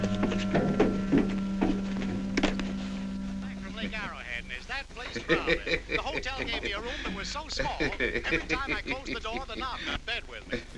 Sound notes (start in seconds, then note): 3.4 man chattering on radio; 5.0 potter laughing